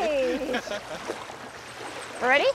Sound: laughing

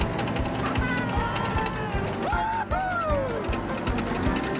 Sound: rickety engine; cheering

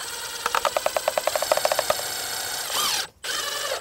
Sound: drill whirs

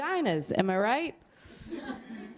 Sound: laughter

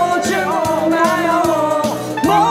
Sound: humming

